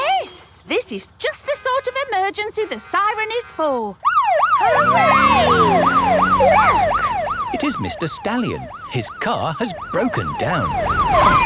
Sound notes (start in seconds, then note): 4.0 siren